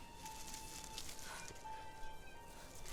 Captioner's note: Alora gasps